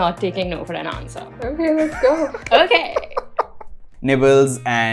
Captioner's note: laughter